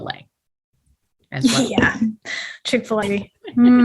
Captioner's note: laughs